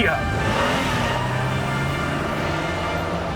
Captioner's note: engine roars patriotically